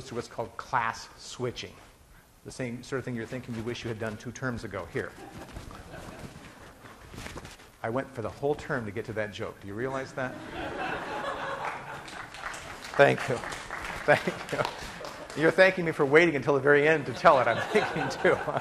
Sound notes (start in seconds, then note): 5.1 class laughing; 10.2 class laughing; 11.4 class applauding